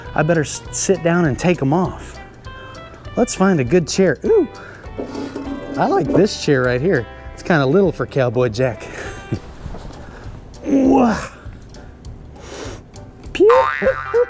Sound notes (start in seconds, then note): 10.6 grunts; 12.4 sniffs